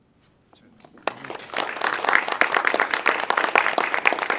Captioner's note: audience clapping